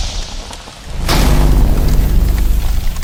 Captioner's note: forcefield loudly cracks